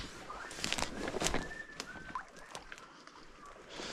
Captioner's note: whistling